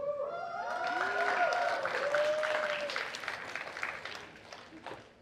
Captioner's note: cheers and applause